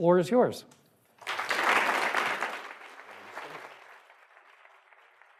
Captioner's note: audience applauding